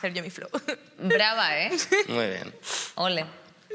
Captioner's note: laughter